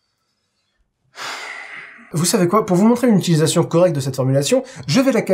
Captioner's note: sigh